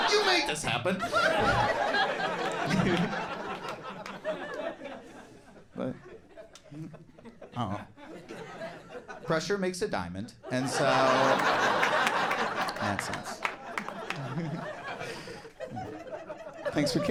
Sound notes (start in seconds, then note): 1.0 audience laughing and clapping